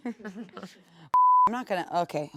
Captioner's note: beep